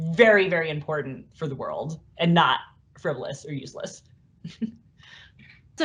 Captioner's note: laugh